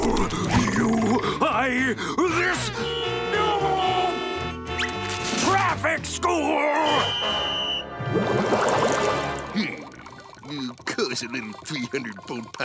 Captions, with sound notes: You- I- This- [honking, screaming] Traffic school! [whistling] Cause a little 300 boat pile up